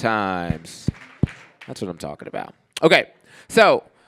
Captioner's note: clapping